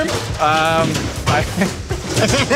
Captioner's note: laughs